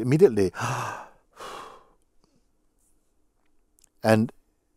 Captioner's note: exhales